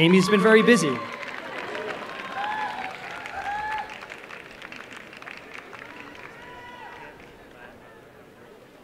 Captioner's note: applause and cheering